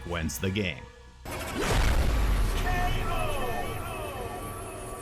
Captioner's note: electronic sound effect